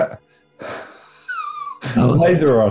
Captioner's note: sniggering